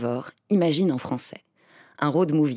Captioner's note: IMAGINE in English